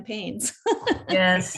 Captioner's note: participants laughing